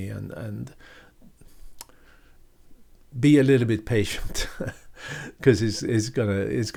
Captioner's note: chuckling